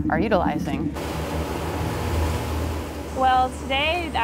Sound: boat engine roaring

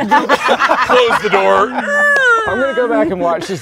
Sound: all laughing

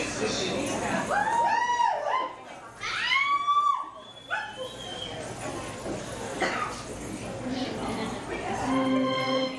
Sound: call outs, cheers

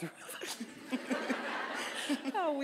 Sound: audience laughing

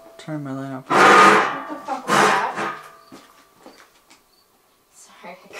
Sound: metallic clanging

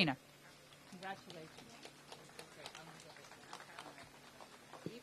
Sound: applause

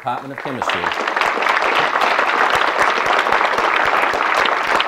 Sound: audience clapping

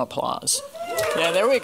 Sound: applause

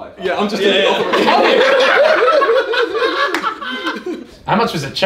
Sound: all laugh

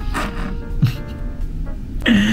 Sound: slurps

